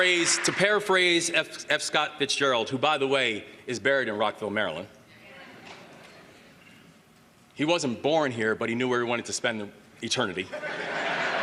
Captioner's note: applause